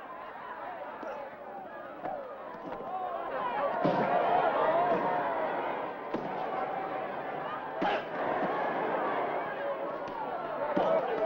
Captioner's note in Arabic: ضوضاء الحشد; أصوات شجار